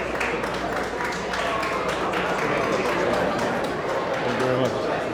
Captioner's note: audience applauding